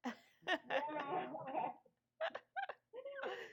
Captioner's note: laughing